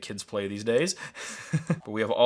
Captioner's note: chuckles